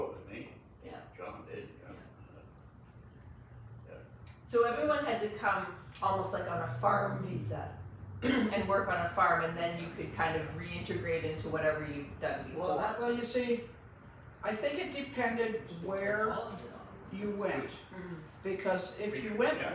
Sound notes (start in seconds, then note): 8.2 clears throat